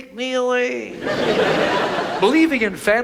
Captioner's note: audience laughs